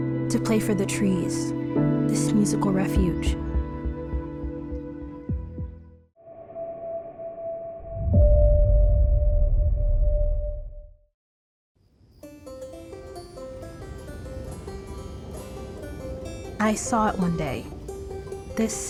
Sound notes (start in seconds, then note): 11.8 crickets chirping; 12.3 pensive banjo music